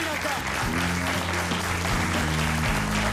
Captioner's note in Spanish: aplausos